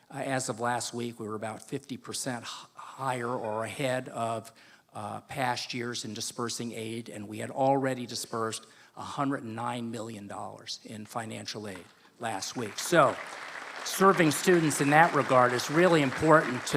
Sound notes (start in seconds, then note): 12.3 applause